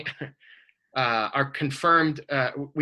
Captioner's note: laughs